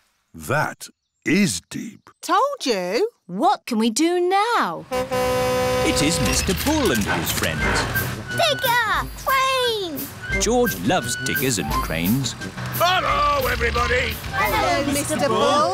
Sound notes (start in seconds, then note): 4.8 horn honks